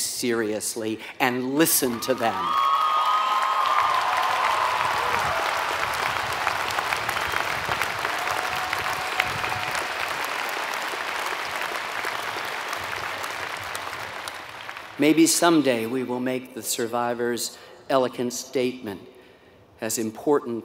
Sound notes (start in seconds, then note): 4.7 applause